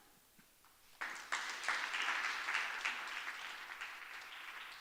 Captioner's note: audience applauds